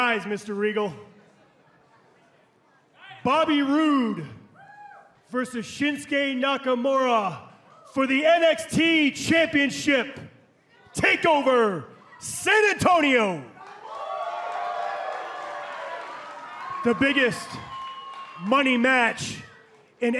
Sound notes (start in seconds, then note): 14.4 crowd cheering